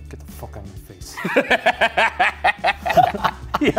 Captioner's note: laugh